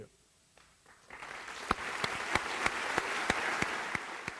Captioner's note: applause